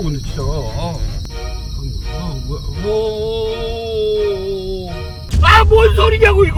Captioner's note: fearful cricket sound